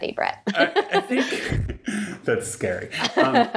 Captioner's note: laughing